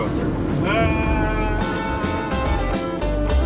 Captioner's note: shouts; upbeat music